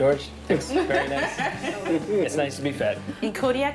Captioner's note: laughs